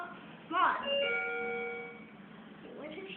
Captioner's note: up Chime